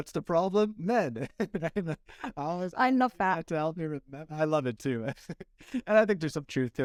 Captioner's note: laughter